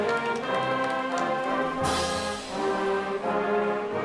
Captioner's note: applause